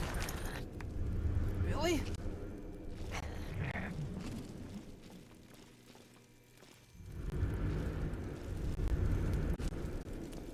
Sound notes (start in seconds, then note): 2.4 animalistic, hostile growling